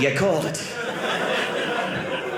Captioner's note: audience laughing